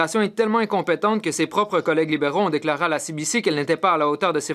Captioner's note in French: voix de l'interprète